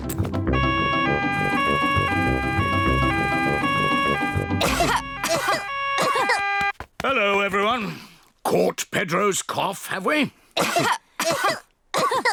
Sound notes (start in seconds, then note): 0.5 siren wails; 4.3 all cough; 11.2 all cough